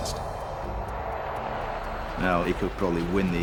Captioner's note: aircraft roaring